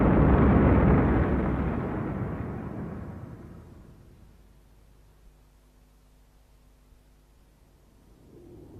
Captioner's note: demolition sounds